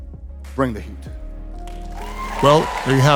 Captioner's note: audience applauding